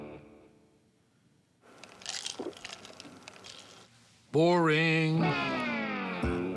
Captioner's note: slurps